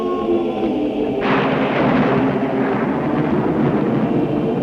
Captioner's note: thunder rumbling